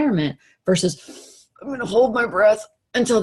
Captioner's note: sucks breath in